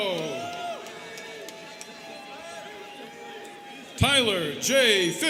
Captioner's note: students cheering